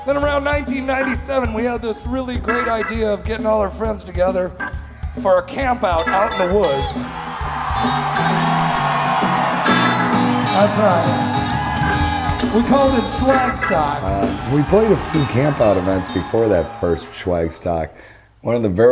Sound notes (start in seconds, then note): 0.0 crowd cheering; 0.0 upbeat bluesy rock music; 7.2 crowd cheering wildly